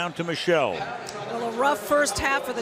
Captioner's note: pa announcement